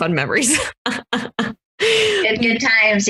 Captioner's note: laughs